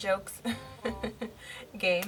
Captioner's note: laughs